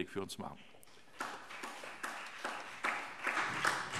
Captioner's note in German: Beifall